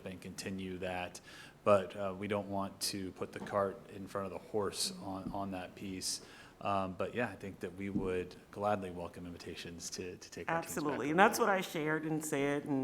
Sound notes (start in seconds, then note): 10.0 voice fades off